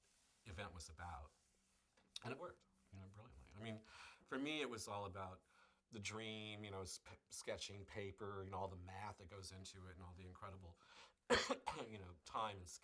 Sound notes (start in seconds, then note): 11.3 coughs